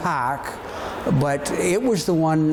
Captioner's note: people chattering distantly